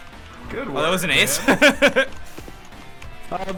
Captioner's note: laughs